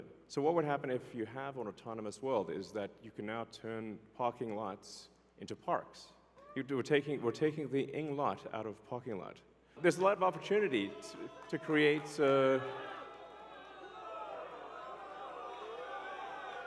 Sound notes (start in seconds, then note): 12.7 crowd cheering